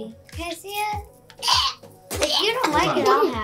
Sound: gagging

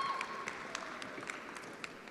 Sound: attendees applauding

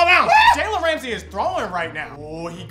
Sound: screams

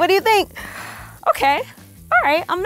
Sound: gasps

